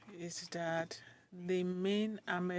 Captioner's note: speaking French